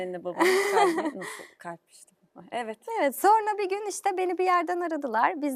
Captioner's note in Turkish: kahkaha